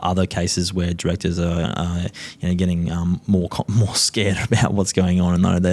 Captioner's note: chuckles